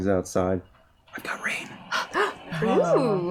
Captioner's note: whispers